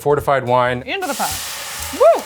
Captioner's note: liquid sizzles